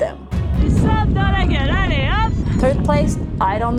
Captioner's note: French